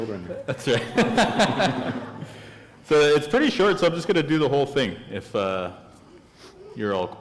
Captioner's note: chuckle